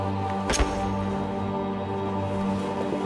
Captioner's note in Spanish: Sonido al apretar el gatillo